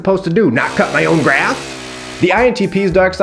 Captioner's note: lawn mower whirring